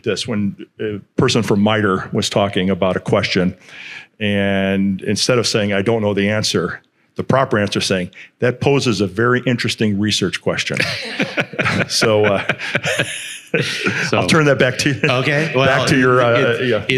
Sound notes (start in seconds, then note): 10.7 speakers laughing